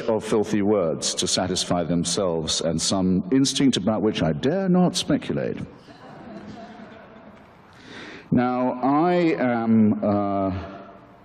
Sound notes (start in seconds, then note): 5.9 audience laughter